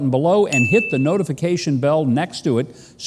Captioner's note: bell ringing